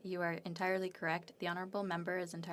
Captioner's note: speaking French